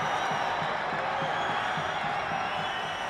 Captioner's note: loud cheering